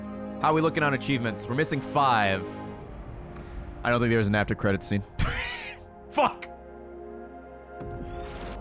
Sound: laughs

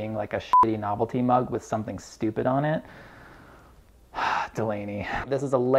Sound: deep exhale

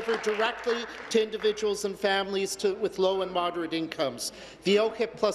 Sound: applause

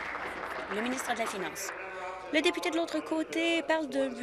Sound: applause

